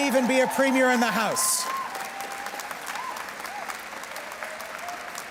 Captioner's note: cheers and Applause